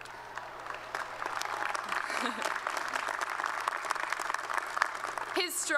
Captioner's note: applause